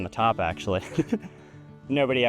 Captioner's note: chuckles